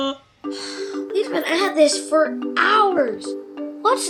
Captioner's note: sighing